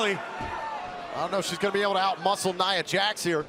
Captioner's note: crowd cheering